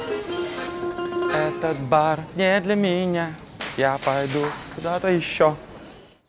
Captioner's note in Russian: напевает